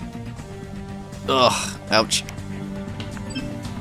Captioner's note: groans